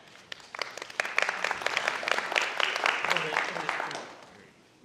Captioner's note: audience applauding